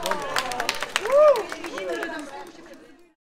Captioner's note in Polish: Aplauz